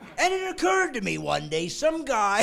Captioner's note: laughing